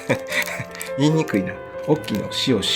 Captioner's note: laughs